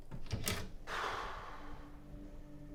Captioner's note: exhales